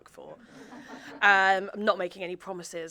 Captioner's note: audience chuckling